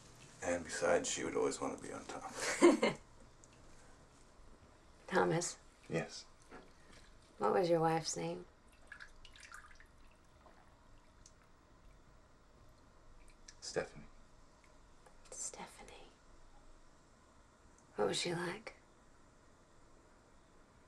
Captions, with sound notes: And besides, she would always wanna be on top. (Abigail laughing) - Thomas? - Yes. - What was your wife's name? - Stephanie. - Stephanie. What was she like?